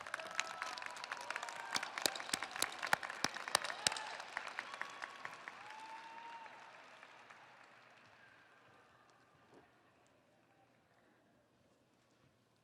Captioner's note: audience applauding